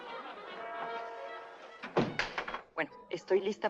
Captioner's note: door thuds